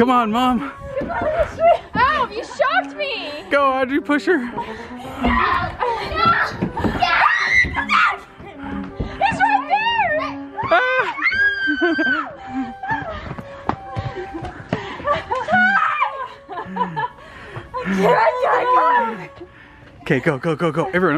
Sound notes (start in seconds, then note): 5.5 screaming; 9.7 screaming and laughing